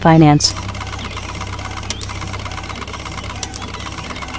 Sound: printing sounds

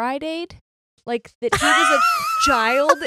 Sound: laughs

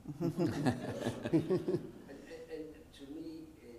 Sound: audience laughing

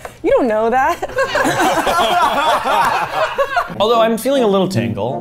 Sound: all laughing

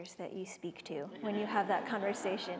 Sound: laughter

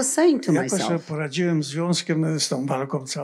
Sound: foreign language

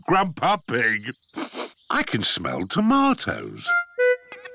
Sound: sniffs

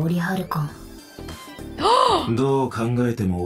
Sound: gasps

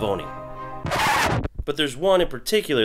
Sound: record scratching

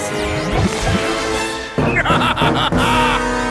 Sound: laughing

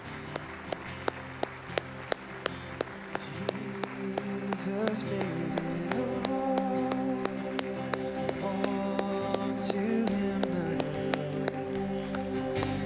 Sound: applause; worship music playing

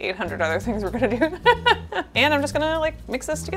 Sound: laughs

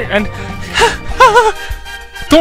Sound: gasps

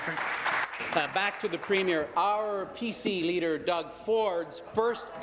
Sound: applause

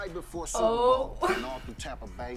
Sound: chuckles

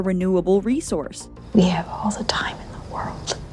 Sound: whispers

